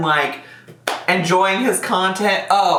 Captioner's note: claps